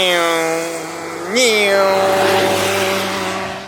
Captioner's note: imitating speeding car noises